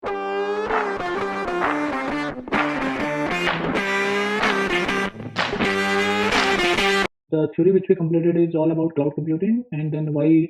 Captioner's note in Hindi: तालियाँ